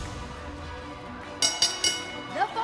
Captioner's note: bell ringing